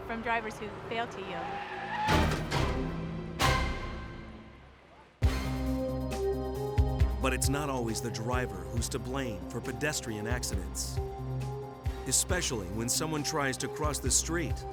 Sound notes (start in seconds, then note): 1.8 dramatic music; 1.8 tires screeching